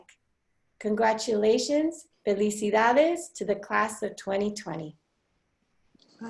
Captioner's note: foreign language